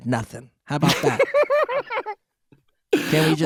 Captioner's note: laughing